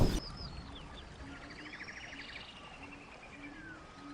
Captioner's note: birds chirping